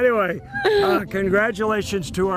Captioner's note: laughter